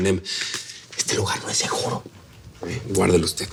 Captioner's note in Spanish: Susurra